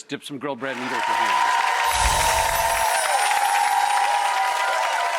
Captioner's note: audience applauds